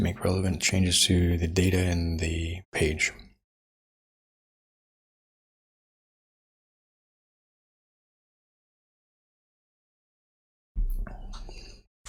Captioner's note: silence